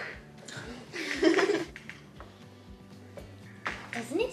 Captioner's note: laughs